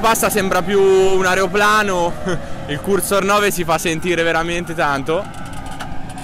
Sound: laughs

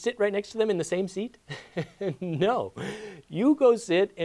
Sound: laughs

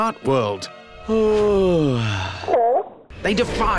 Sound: yawns

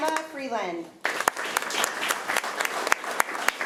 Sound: applause

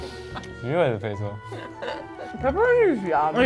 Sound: both laughing

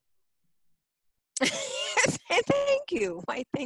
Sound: laughs

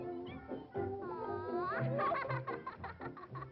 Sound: laughs

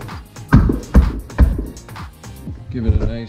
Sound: wood tapping

